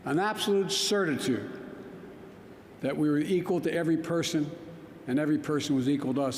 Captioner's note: none